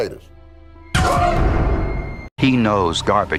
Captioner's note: dramatic sfx